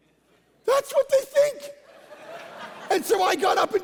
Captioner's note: congregation laughing